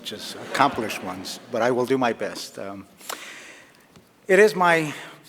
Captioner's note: laughter